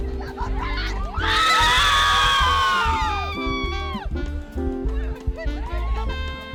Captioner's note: students cheering and screaming